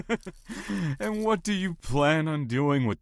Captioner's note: laughs